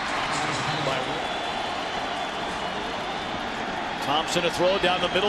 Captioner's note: crowd cheering